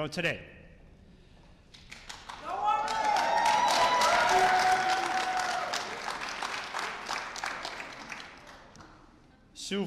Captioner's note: applause and Cheers